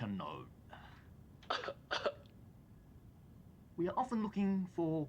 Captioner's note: man coughs